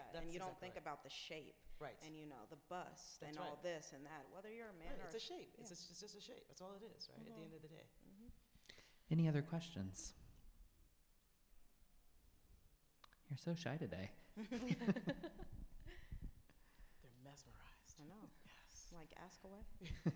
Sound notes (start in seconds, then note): 14.4 laughs